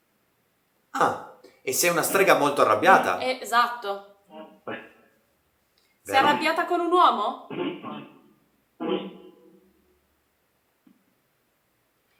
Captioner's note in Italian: schiarire la voce